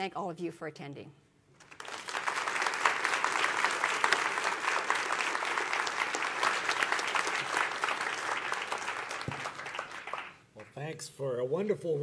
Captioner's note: applause